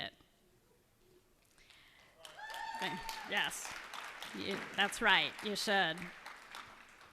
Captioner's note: cheers and applause